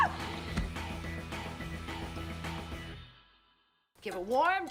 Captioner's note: screams